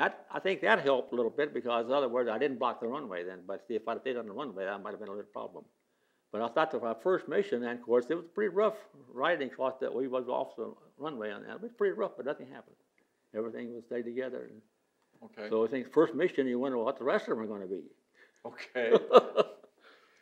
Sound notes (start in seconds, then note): 18.4 laughs